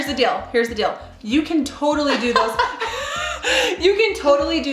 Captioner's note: laughs